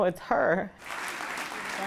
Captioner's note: applause